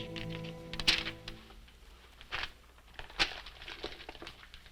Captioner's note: paper snapping; paper crinkling